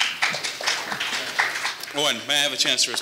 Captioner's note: audience applauding